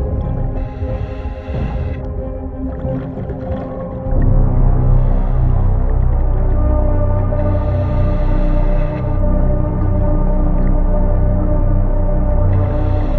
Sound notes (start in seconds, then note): 4.3 chilling music continuing; 4.3 oxygen tank whooshing